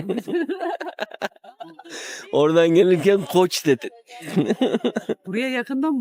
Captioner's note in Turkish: kahkaha